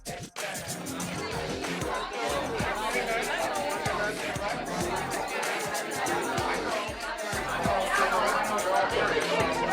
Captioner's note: people chattering